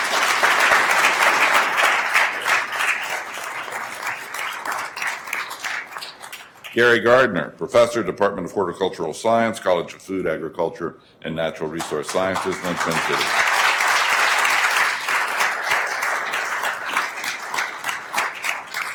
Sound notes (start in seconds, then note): 0.0 attendees applauding; 14.0 attendees applauding